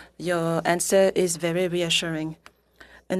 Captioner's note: speaking French